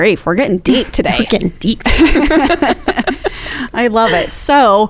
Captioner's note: chuckling